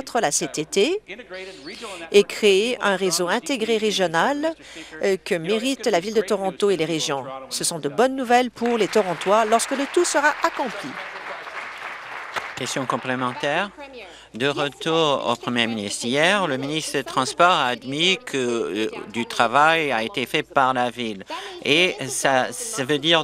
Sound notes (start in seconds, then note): 13.2 applause